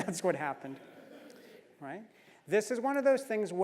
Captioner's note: laugh